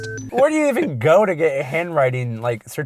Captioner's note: voiceover